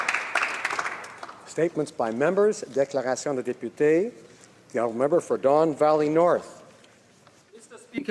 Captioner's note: applause